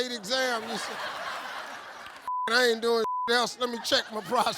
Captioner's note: beep